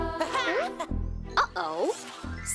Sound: Cozmo laughs

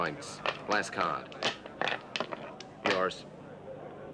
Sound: dice rattling

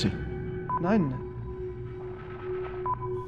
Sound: speaking in german

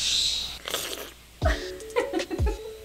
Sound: Marlene slurps; laughs

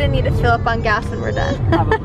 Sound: laughs

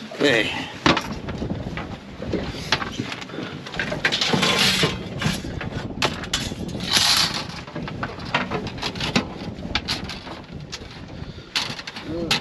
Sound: clattering

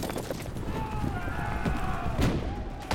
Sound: shouting

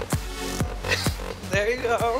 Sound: laughs

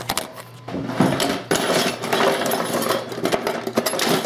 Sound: clattering

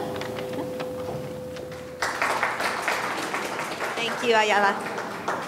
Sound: audience clapping

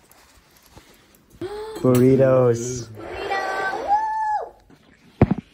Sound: excited noises

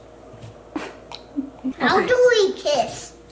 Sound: chuckles

